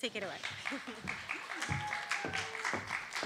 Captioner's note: applause